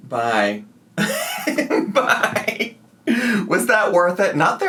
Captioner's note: laughs